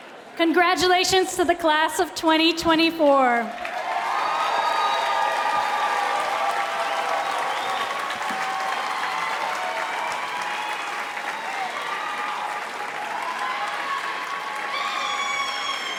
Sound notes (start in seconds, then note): 3.4 crowd cheering